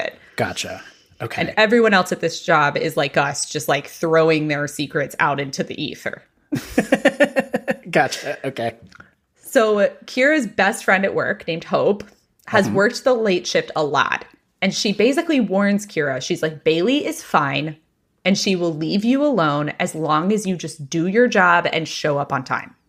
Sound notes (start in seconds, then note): 6.5 laughs